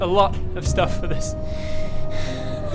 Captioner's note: sad DM noises